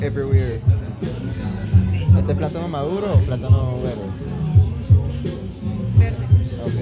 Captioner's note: speaking in foreign language